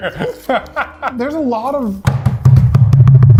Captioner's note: laughs; banging sounds